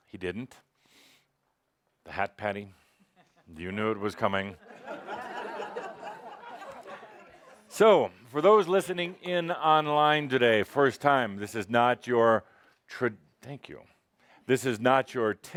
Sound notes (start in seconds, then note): 4.6 laughter as hands him her large white hat